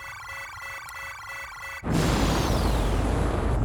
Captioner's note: alarm blaring